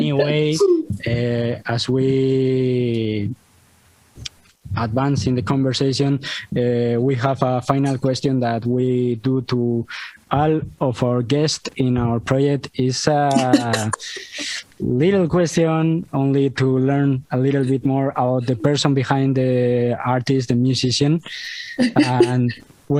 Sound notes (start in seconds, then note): 13.3 risas; 21.9 risas